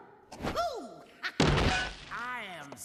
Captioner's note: crash